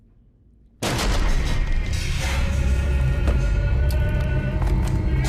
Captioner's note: sudden ominous music; wood cracking loudly; muffled 1920's music; soft intense music